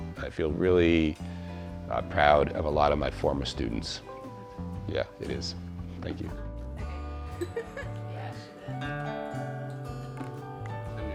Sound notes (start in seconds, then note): 7.3 laughs; 8.6 guitar thrumming